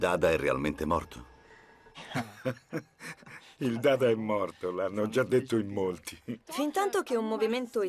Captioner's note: laughs